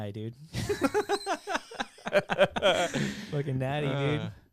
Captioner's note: laughing